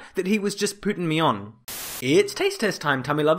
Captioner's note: Static